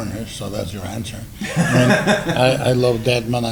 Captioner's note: laughs